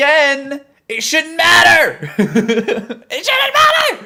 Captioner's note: laughs